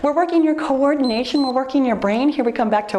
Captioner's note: timer beeps